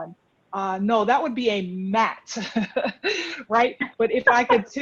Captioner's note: laughs